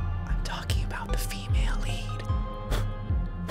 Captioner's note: whispering